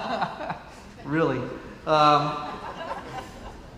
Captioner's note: laughs; laughs